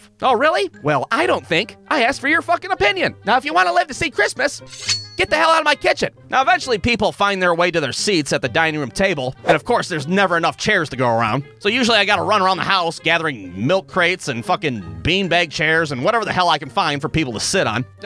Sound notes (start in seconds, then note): 4.7 schwing!